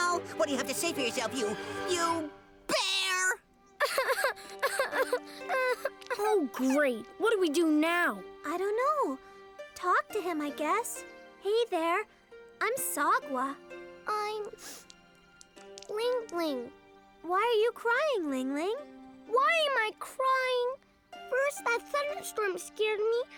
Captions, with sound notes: What do you have to say for yourself, you, you...bear? [ Cries ] - Oh great. What do we do now? - I dunno. Talk to him I guess. Hey there. I'm Sagwa. - I'm Ling-Ling. - Why are you crying, Ling-Ling? - Why am I crying? First, that thunderstorm scared me,